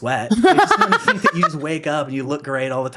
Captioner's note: laughing